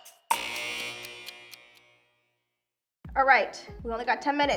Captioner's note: clock ticks; buzzes